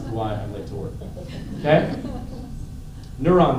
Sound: laughter

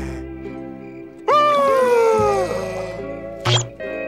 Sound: sighing

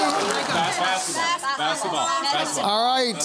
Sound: team clamouring

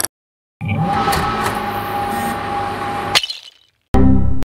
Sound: fan noises

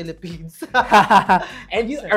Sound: laugh

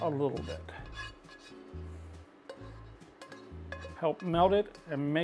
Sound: spoon scratches

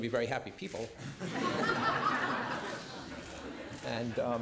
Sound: laughter

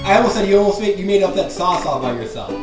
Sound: voiceover

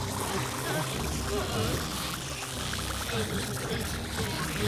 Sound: liquid bubbling

